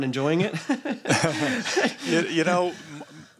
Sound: laughter

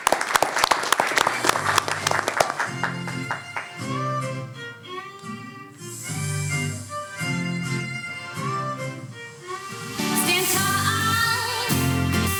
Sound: applause

